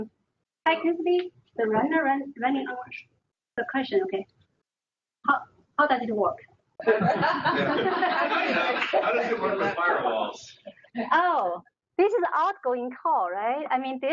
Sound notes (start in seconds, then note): 6.8 laughter